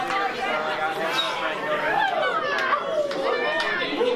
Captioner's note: light claps; background chatter